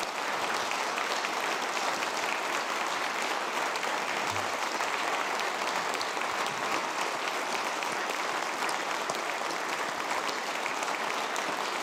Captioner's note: applause